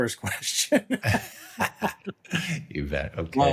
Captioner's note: laugh